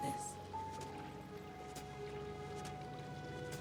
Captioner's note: airplane approaches